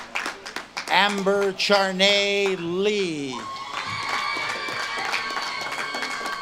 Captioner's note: audience claps and cheers